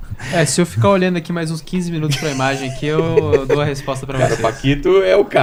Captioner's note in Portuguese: risadas